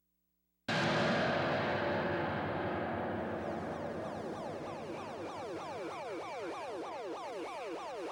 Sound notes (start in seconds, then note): 0.7 suspenseful tones; 4.4 alert sounds